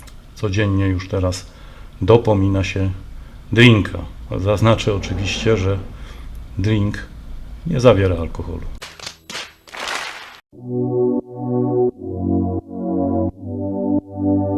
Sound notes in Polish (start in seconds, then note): 9.7 Aplauz